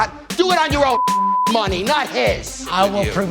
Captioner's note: beep